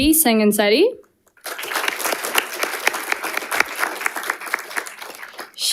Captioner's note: audience applauding